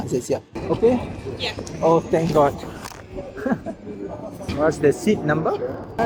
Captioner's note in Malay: ketawa